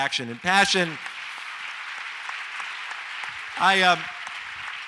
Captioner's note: audience applauds